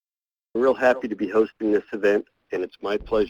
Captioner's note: voiceover